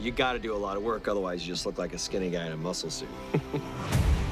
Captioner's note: chuckles